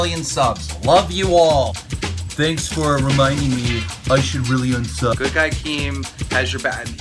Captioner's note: mockingly dismissive tone